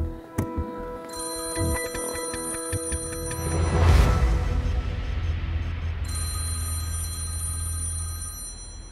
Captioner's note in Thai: เสียงโทรศัพท์